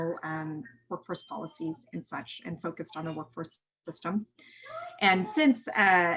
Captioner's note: voices in the background